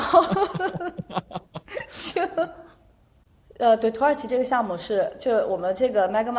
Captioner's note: laughter